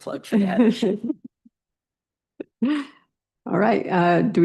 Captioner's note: laughter